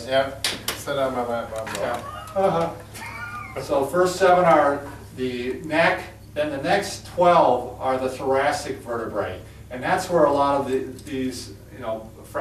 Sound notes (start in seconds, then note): 3.4 chuckling